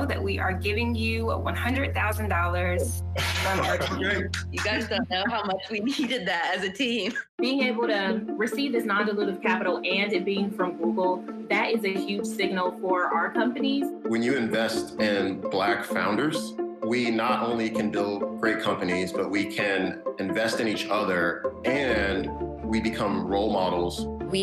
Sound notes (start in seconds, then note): 3.4 clapping